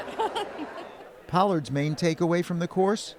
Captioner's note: laughter